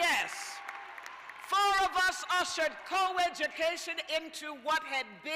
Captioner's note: cheers and applause